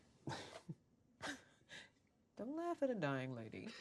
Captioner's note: chuckling